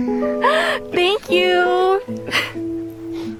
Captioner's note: gasp